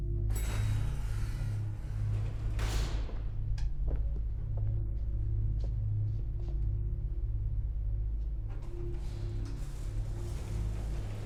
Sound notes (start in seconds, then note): 0.6 elevator dings; 2.8 elevator door rattles; 7.5 gentle foreboding music